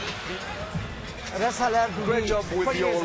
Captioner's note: speaking French